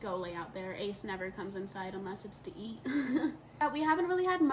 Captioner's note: laughs